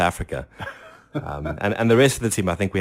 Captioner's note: laughs